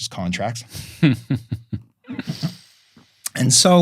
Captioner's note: laughing